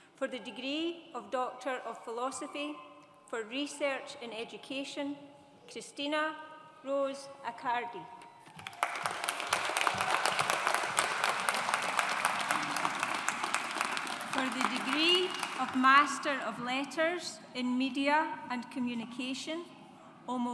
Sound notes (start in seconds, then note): 8.5 audience applauds